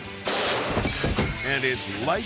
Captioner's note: sparks zapping